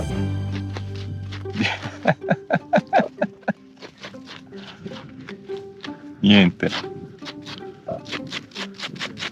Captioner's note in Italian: Risate